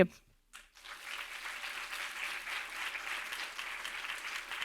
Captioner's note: audience clapping